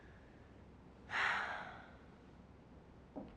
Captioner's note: sighs